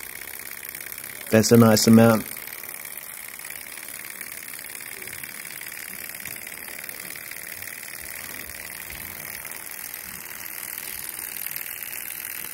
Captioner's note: engine noises